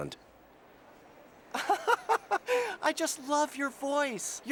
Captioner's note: laughing